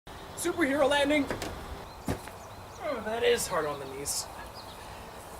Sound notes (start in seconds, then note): 2.0 thud